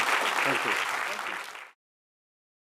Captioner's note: applause